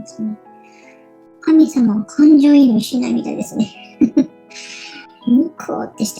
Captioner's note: laughs